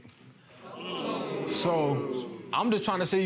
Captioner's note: audience gasping